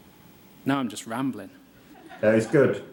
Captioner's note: laughter